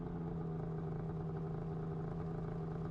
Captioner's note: engine idling